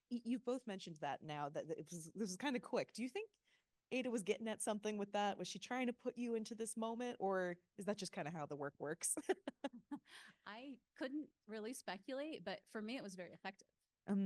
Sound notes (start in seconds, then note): 9.1 chuckling